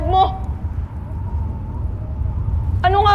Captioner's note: wind howling